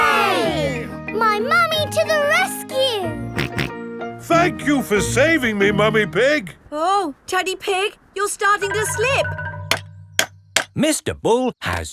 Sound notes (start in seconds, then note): 4.1 snorting; 10.4 clanking